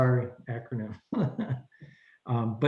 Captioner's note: laughs